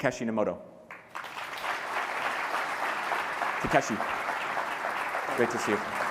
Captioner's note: applause